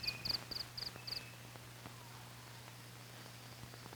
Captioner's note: crickets chirping